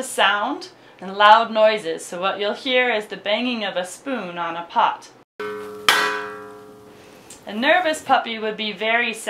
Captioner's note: banging pot